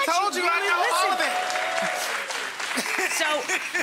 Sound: audience applause; guest 1 laughs

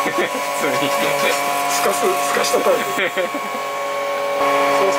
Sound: laughs

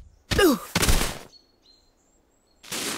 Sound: groans

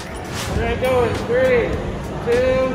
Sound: whoosh

